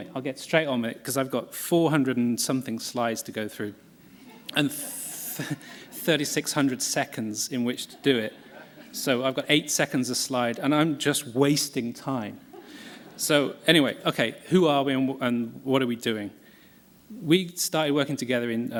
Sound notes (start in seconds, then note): 12.4 laughter